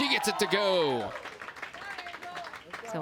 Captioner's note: crowd cheers and applauds